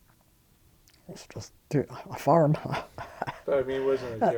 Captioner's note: chuckling